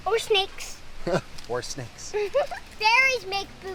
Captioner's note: laughs